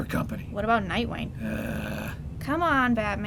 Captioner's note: Batman growns